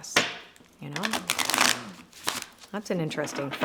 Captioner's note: cards shuffle